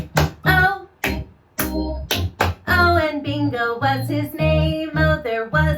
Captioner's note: clap, clap, clap-clap